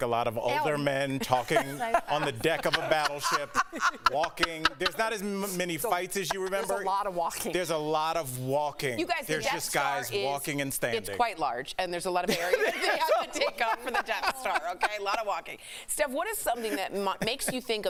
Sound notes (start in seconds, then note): 7.6 laughter; 16.5 laughter